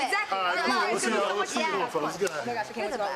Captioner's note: laughs